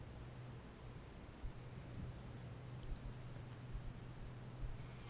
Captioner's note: none